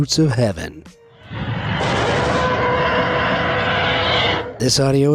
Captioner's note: elephants trumpets